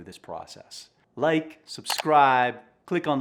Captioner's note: soft click